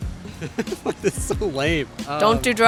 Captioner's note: laughs